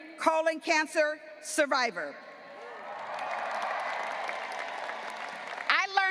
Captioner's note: graduates applauding and cheering